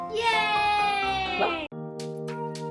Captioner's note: cheers of success